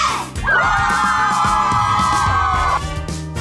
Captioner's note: all whoop